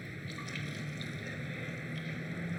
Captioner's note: paint drips